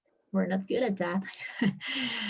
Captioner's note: laughs